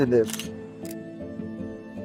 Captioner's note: camera capturing sound